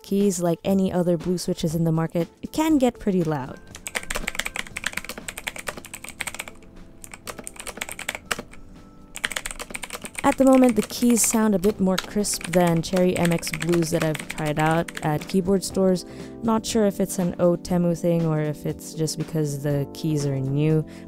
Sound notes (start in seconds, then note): 3.7 clicky typing sounds